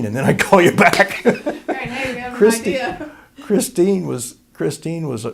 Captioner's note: laughter